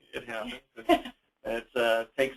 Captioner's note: laughs